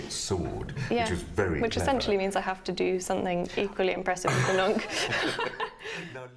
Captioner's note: they laugh